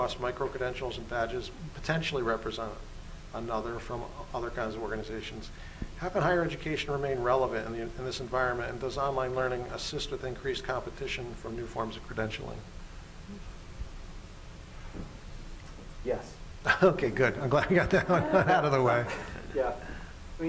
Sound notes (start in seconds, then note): 17.4 laughs